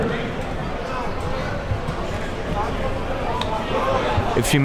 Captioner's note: crowd talking